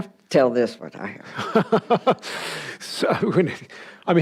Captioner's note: laughs